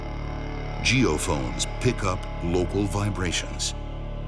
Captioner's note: voiceover